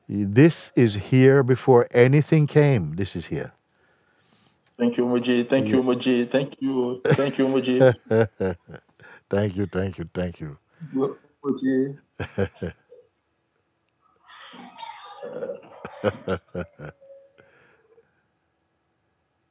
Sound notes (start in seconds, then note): 7.0 Mooji lacht; 12.6 Lachen